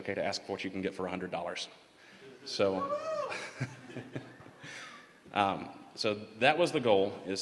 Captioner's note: laughter